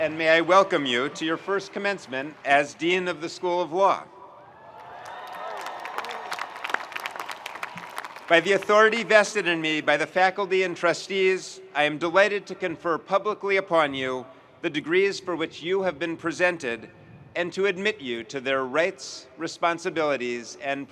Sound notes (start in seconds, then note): 4.5 audience cheering and applauding